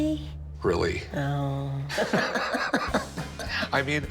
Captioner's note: laughter